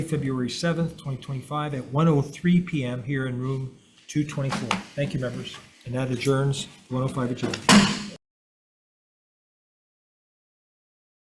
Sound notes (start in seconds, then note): 7.5 gavel taps